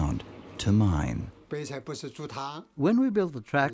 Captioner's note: speaking in foreign language